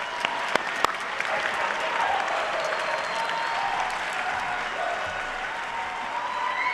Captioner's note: clapping